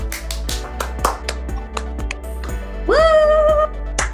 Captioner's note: applause